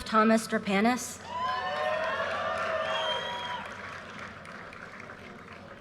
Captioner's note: audience cheers and applause